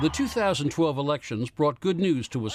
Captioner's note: cheering and applause